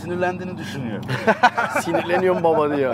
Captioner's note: laughings